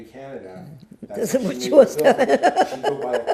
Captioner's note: laughing